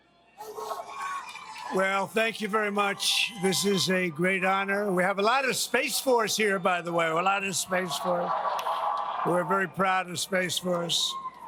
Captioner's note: cheering